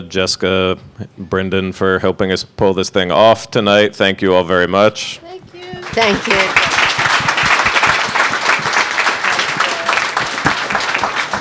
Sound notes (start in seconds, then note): 5.7 audience clapping